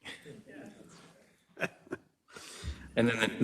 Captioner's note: attendees chattering and laughing